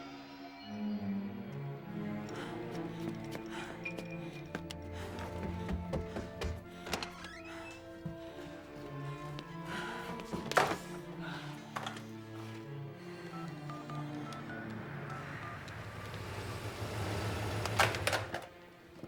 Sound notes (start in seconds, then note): 13.2 phone beeping; 16.0 car rumbling